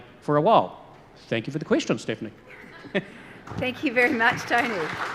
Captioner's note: chuckles; audience applause